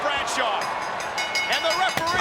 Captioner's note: bell rings